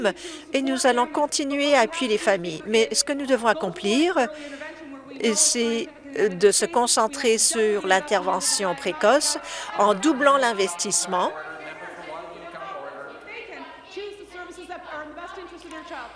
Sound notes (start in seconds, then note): none